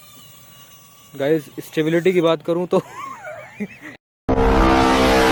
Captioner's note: drone crashes 🤣